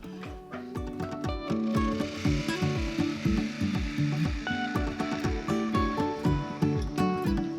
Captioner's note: spindle gouge noise